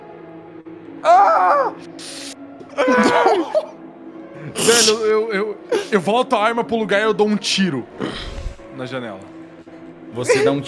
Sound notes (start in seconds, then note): 1.0 Luis screams